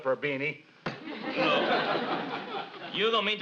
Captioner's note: audience laughs